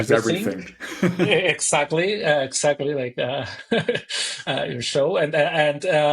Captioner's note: chuckles; chuckles